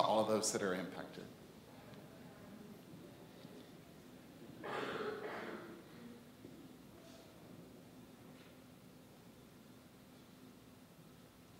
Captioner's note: silence